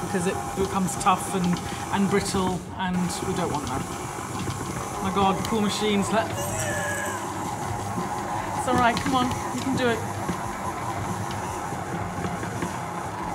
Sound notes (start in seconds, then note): 6.3 groaning